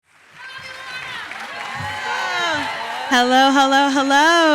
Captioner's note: audience cheering